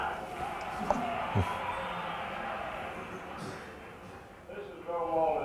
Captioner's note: crowd cheers